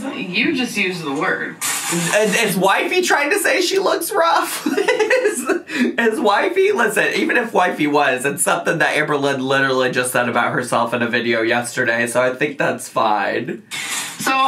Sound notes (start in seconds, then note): 4.4 laughs